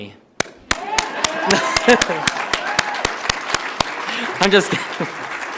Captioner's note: audience applauds